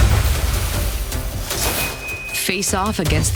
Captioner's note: water steaming